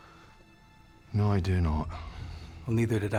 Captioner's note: scottish accent